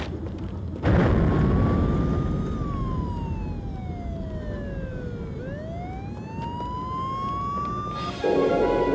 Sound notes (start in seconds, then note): 0.7 cool explosion